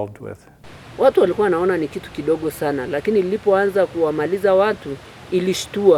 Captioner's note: speaking in foreign language